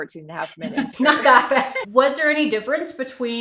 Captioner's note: laughs